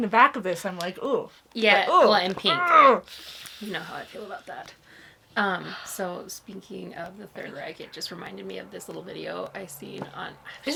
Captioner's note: groans of frustration